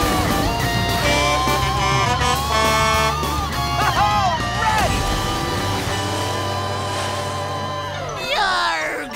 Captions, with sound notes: [horn honking] Alright! Yarg!